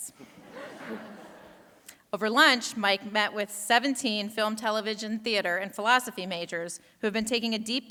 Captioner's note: laughter